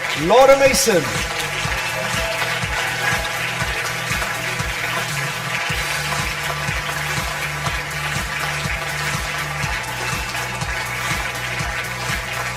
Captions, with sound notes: Laura Mason. [Audience applause] [Upbeat music]